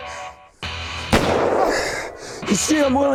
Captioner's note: dramatic music; gun firing